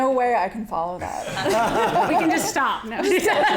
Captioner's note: audience laughing